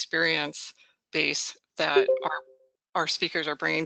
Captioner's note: beeps